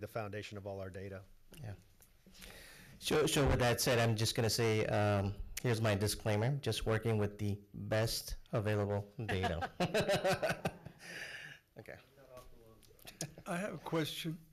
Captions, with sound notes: foundation of all our data. - So with that said, I'm just gonna say here's my disclaimer, just working with the best available data. (laughs) - I have a question.